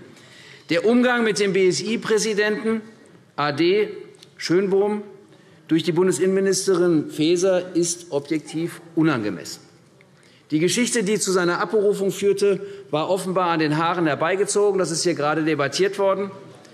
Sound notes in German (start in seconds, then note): none